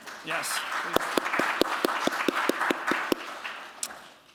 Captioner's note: applause